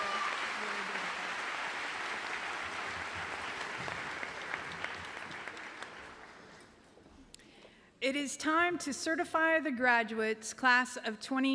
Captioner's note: applause